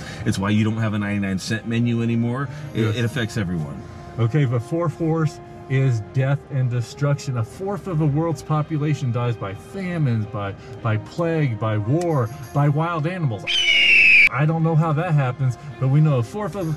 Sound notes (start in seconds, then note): 13.4 eagle crying